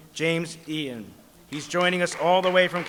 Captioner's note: applause